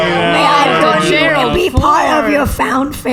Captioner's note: Pleck, C-53, Nermut, and AJ all "ohh" sadly; sympathetically